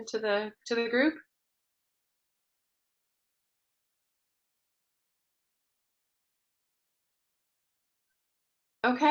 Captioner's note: pause